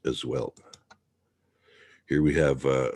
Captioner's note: mouse clicking